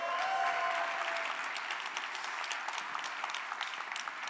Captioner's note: applause